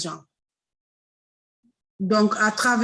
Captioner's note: speaking in foreign language